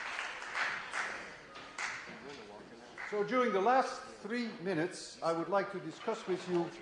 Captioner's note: applause